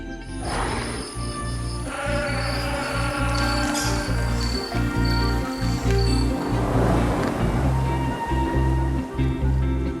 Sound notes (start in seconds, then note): 1.7 lion roar; 1.8 goat bleating; 4.7 crickets chirping; 6.9 thunder rolling